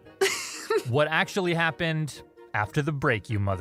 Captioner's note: laughs